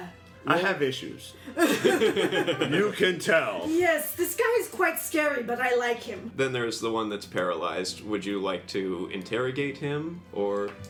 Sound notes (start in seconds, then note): 1.5 all laugh